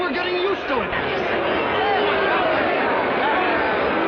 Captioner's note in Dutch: schreeuwend